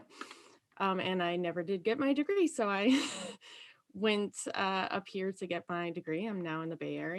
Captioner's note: laughs